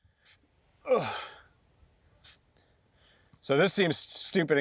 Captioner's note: grunts